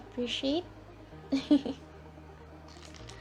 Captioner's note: giggle